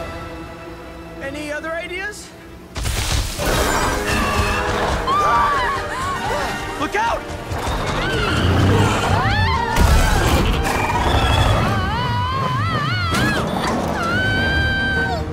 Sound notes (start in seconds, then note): 4.0 both shriek; 7.8 screaming; 11.4 Brooklynn shouting